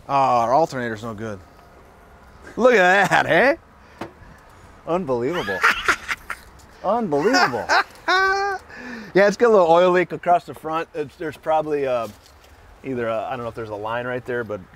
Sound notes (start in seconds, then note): 5.3 laughs